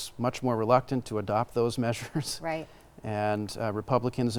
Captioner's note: laughing